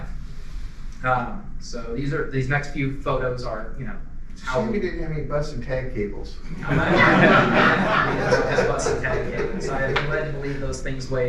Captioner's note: audience discussion about bus and tag cables +laughter